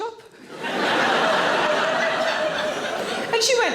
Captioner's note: audience laughing